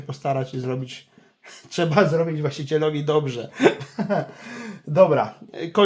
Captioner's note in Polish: śmiech